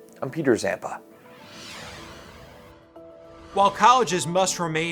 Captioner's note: graphics whoosh; soft contemplative music